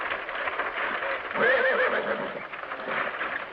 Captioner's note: hooves clattering; horse neighs